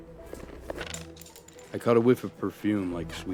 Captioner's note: pencil clattering